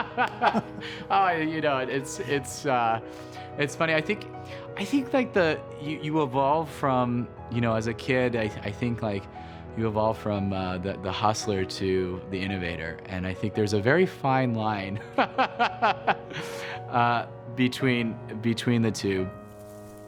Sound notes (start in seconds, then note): 3.1 laughs; 18.0 laughs